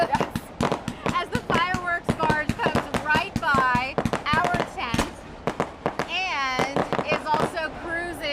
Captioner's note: firewksor popping